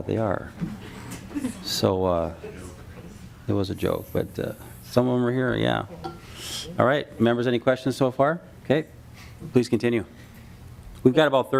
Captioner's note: laughing